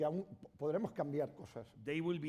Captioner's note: speaking spanish